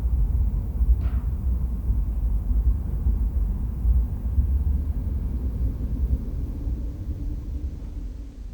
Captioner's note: muffled wind